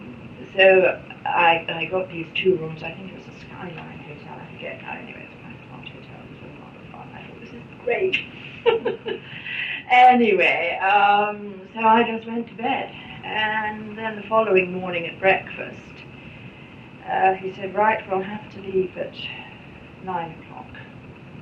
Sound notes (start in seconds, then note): 8.0 laughs